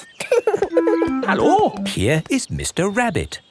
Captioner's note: laughing